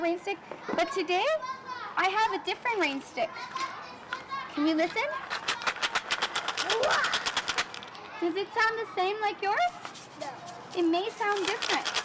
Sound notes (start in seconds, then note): 5.2 rattling